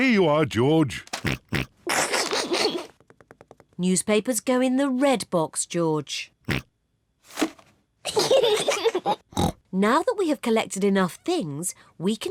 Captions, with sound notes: Here you are, George. (SNORTS, SNICKERS) Newspapers go in the red box, George. (SNORTS) (KIDS GIGGLE) Now that we have collected enough things,